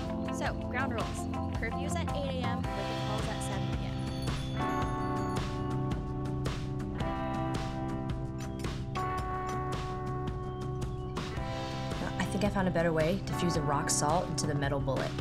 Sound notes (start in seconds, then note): 2.8 bell chimes; 8.2 clink clink clink; 10.2 birds chirping